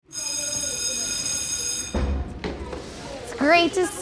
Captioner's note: school bell rings